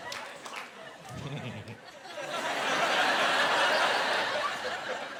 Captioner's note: snickering